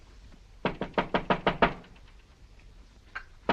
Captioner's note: door knocking